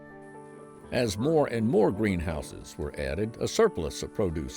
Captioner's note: voiceover